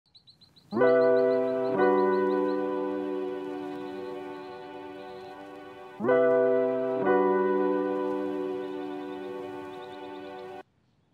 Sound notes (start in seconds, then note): 0.8 warm, upbeat, Introduction music plays; 2.8 sounds of birds in the distance